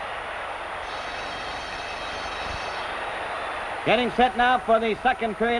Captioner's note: bell rings